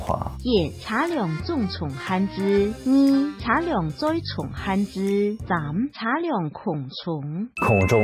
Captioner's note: speaking KeJia Language